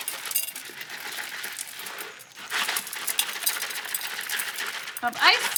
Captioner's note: salt crystals dropping